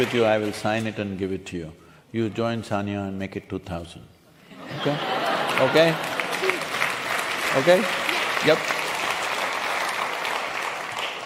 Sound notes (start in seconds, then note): 4.6 laughter/Applause